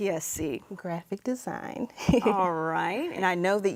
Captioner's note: laughs